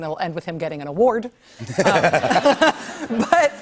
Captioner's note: laughter